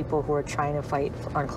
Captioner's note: none